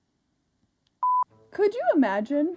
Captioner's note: beeps